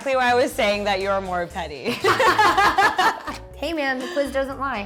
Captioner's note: laughs loudly